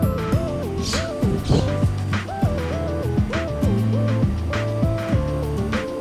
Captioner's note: laughs